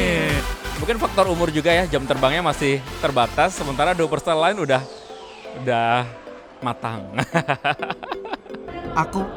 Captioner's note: laugh